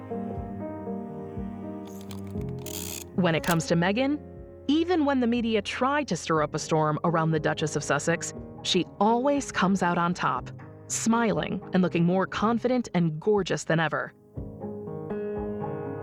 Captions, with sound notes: (shutter clicks) When it comes to Meghan, even when the media tried to stir up a storm around the Duchess of Sussex, she always comes out on top, smiling and looking more confident and gorgeous than ever.